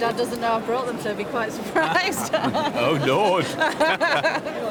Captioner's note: they laugh